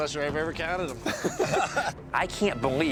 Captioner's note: laughter